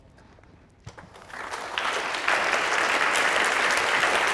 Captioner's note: applause